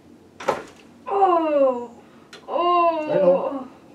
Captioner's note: patient moans